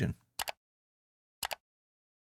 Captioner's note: mouse clicking